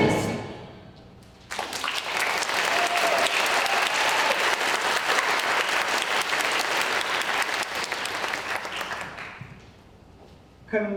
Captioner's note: applause